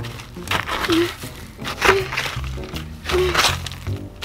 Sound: shovel scraping; grunting

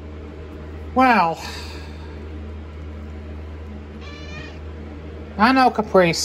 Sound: Caprice meows

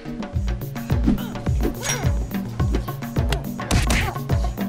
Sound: punches thudding

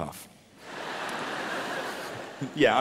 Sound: audience laughing

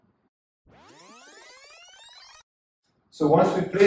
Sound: fast forward buzzing

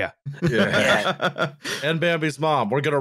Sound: laughter

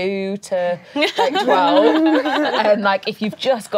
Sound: laughing

